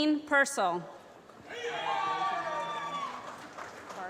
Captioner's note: applause